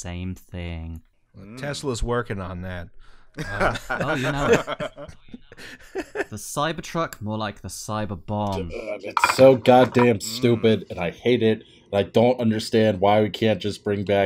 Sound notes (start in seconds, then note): 3.4 laughter